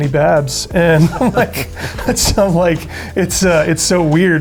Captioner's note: laughter